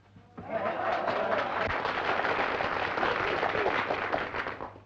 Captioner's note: audience applauding